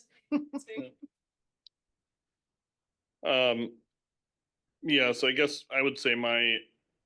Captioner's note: laughing